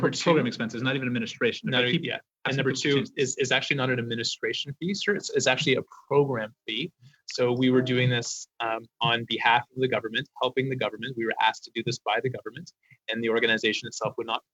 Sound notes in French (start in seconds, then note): 4.6 voix de l'interprète